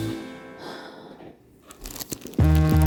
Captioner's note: sigh